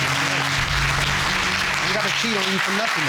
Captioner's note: audience applauding